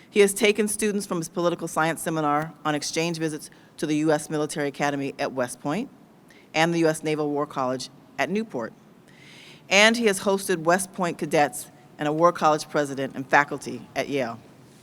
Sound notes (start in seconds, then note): none